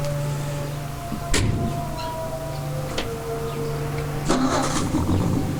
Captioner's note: car door thudding; car engine revving